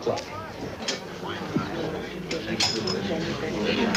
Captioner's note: dishes clattering